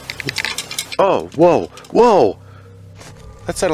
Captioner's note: fence Rattle